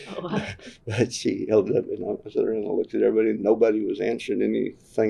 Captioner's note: laughs